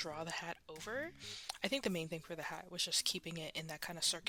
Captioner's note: inhale